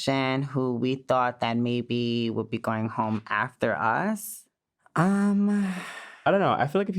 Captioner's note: sighs